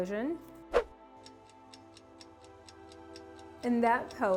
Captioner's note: clock ticking